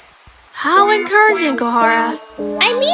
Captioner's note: Sarcastic